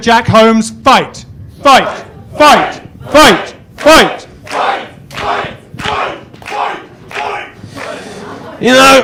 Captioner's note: chanting